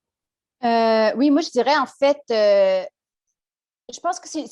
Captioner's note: speaks French